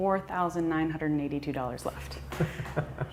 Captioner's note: laughter